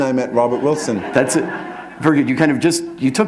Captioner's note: laughter